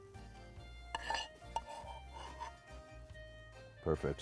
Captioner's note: utensil scrapes